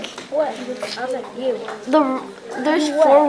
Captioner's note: chatter